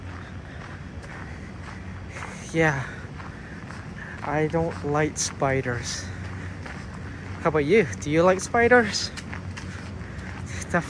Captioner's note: walking on gravel